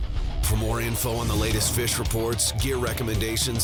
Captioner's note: voiceover